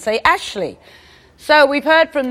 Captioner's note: none